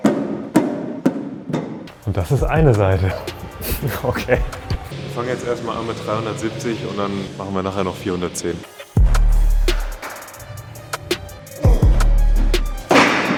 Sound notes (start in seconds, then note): 2.0 laughs